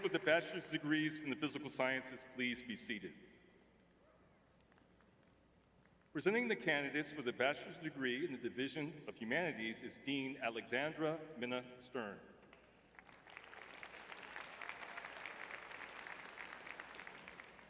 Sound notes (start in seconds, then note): 12.8 audience applauding